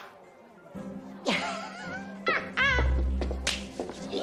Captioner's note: laughs